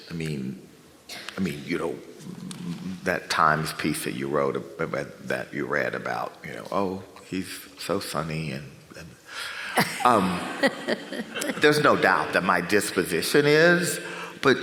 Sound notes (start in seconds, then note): 9.7 laughs